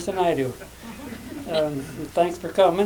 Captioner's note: laughter